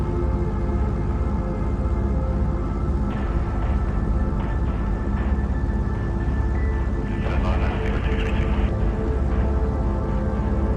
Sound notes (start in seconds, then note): 0.8 airplane engine rumbling; 10.5 airplane engine rumbling